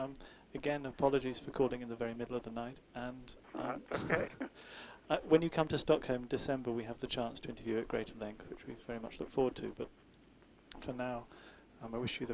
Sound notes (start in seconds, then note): 3.8 both laugh